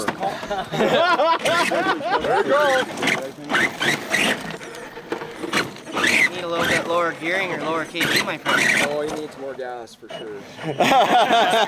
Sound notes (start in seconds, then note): 0.1 laughter; 2.9 motor whining